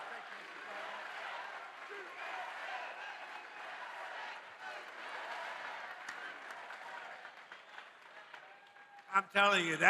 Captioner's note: audience chants "USA"